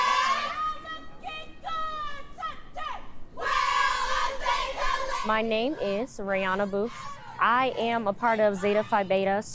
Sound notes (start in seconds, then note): 5.3 crowd chanting